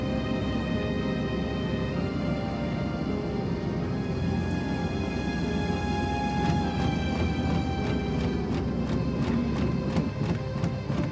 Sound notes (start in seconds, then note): 0.1 gentle upbeat music; 3.2 car engine stalling; 6.6 dramatic music